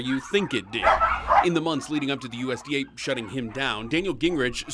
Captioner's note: ds barking